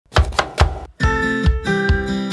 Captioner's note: knife thumping; upbeat music